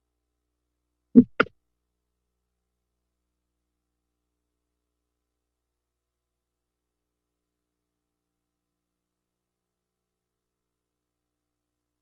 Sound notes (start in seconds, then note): 1.1 microphone thuds